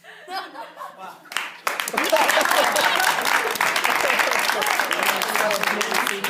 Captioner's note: applause